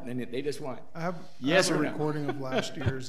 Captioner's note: laughs